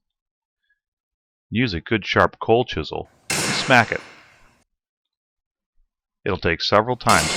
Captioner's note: hammer hitting chisel noise